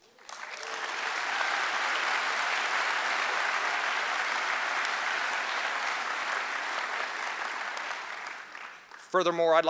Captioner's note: applause